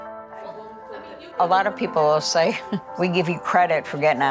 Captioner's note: chuckles